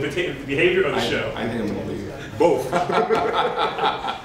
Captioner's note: laughter